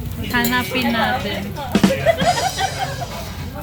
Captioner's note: laughs